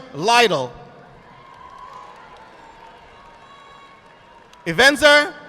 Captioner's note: audience applauding